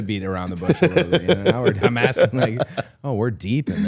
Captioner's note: Chad laughs